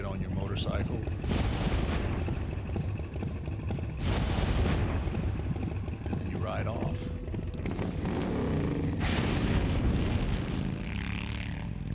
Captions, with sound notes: you get on your motorcycle (pyrotechnics exploding) and then you ride off. (motorcycle engine revving)